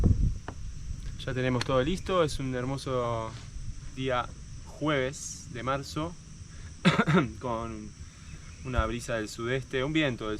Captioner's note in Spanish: carraspeo